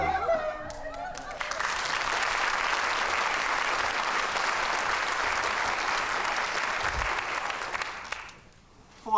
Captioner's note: applause